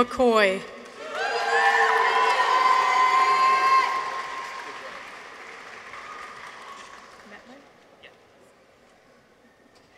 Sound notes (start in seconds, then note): 0.8 audience applauds; 0.9 people cheer